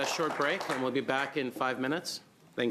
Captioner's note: applause